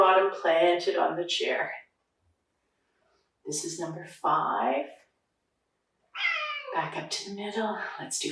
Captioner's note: cat meowing